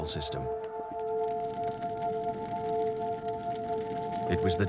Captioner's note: fire crackling